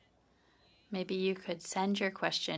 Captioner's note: speaking French